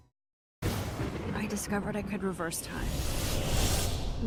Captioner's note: thunder